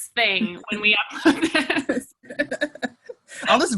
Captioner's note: laughing; laughs